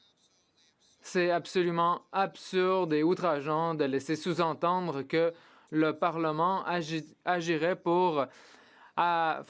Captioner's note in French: voix de l'interprète